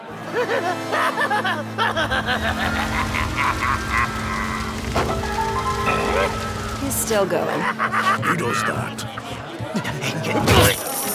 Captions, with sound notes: [LAUGHING MANIACALLY] *distant fire & screaming* …EH? …He's still goin. He does that.